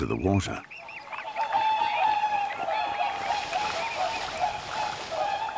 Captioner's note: swans cry